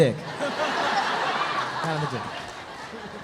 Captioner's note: audience laughs